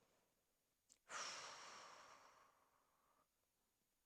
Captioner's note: exhales